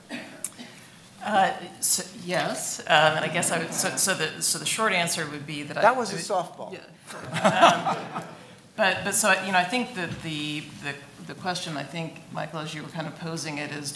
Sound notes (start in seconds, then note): 3.3 audience laughing; 7.1 laughing